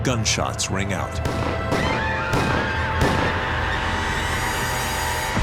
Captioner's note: gunshots firing